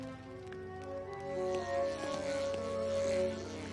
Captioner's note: buzzing sound